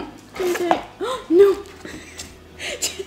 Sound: gasp

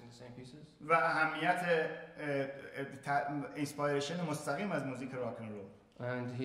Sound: speaking in farsi

